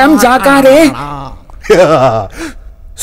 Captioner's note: Sinister laugh